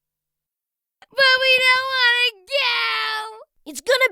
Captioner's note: wailing